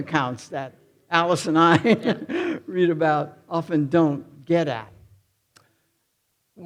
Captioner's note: chuckles